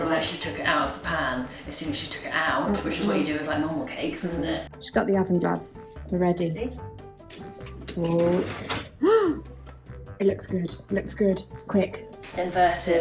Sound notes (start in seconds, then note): 8.6 gasps